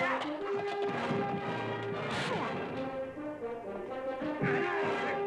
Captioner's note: grunting, smacking